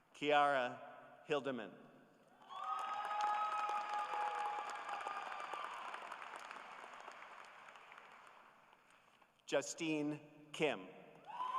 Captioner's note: applause